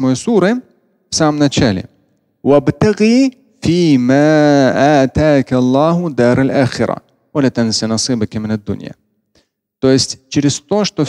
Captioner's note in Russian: говорит на арабском